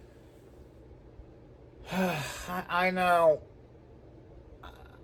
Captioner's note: sighs